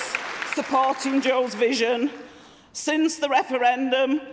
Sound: applause

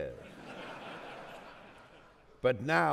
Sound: audience laughing

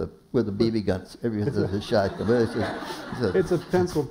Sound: laughter

